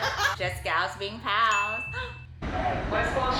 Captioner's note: gasp